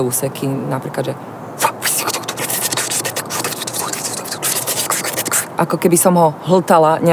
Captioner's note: makes sounds combining different vowels